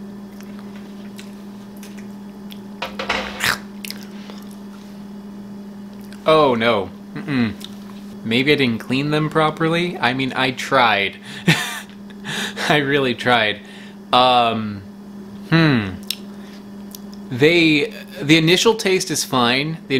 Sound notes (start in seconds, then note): 3.6 man retches; 11.2 man laughs